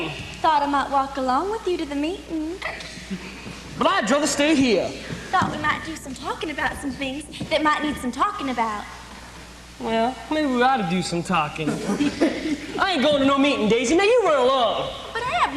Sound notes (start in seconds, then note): 2.6 snickers; 11.6 laughter